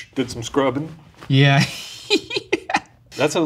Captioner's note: laughing